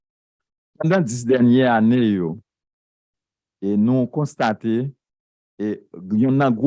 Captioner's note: speaking a foreign language